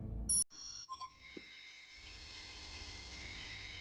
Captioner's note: digital beeping; haunting music